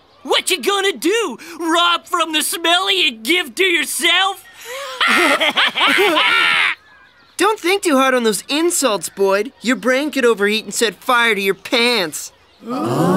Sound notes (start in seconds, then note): 4.5 laughing; 12.6 gasping